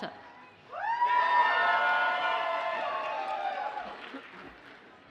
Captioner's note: audience cheers and applauds